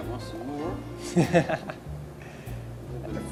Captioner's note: laughs